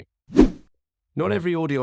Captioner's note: screen whooshing